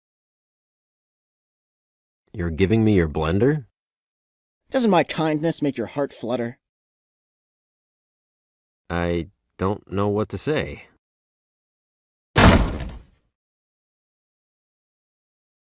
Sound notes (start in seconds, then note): 12.3 slam